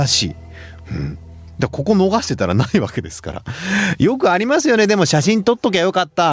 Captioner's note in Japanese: 咳払い